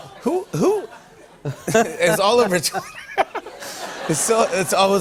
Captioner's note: laughter